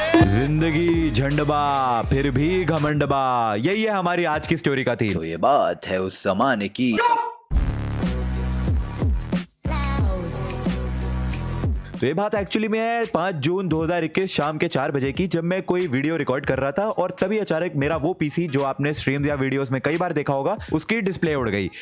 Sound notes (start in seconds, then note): 6.8 quiet!!